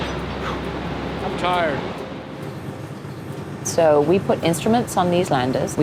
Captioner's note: exhales